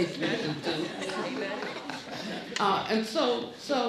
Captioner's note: laughing